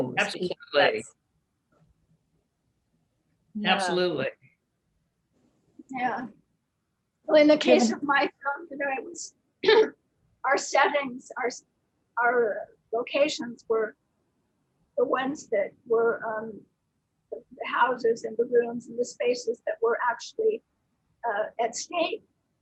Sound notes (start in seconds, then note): 9.2 clears throat